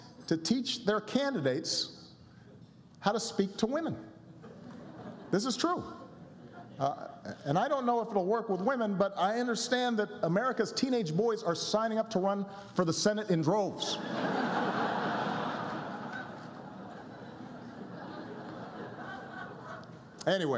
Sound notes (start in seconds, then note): 16.0 laughter